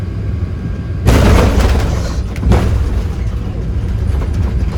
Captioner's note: landing noise